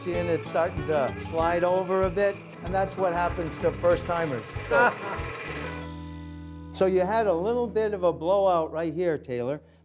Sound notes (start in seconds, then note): 4.6 laughing